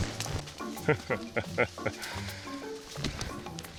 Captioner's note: chuckling